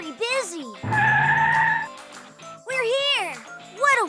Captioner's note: tires screech